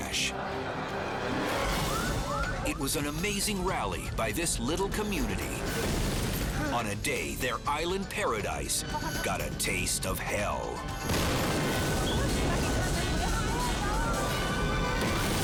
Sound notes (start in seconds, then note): 0.2 dramatic music; 11.0 explosions booming